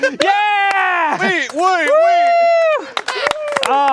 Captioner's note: applause